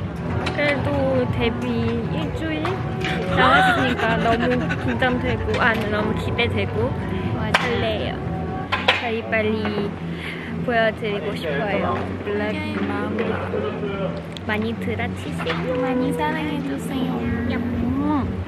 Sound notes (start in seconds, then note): 5.0 hearts pounding